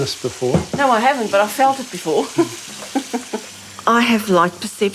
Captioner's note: chuckles